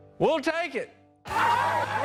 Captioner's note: cheering